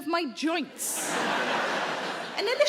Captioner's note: audience laughing